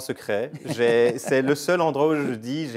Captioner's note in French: Rire